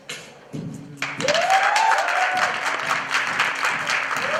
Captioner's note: applause